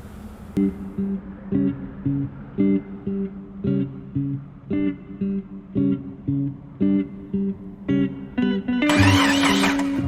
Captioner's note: t-16 engine false start; t-16 stalls before engine finally starts